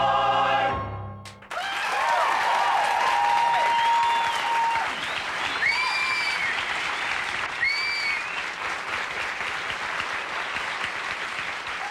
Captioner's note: hoots, clapping, and whistles